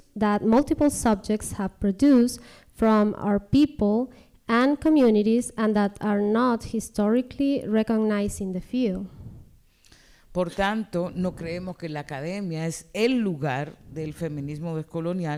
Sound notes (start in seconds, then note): 9.9 speaking spanish